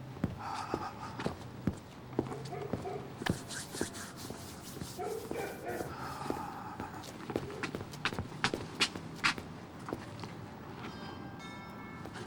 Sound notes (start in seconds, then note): 0.3 sighs; 2.3 footsteps; 5.8 sighs; 10.7 doorbell rings